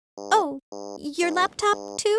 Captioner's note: device sounding